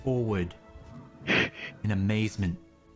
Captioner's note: Krel heavy breathing; Krel gasps for breath